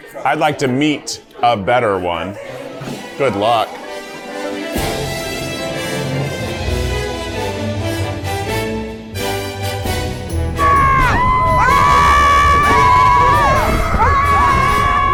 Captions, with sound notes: I'd like to "meat" a better one. Good luck. (grand orchestra music) (group screaming)